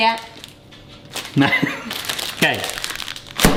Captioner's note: chuckles